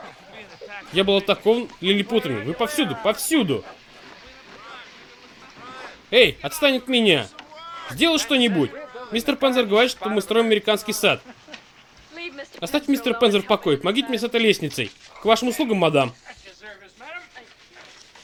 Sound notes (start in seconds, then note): 3.6 chatter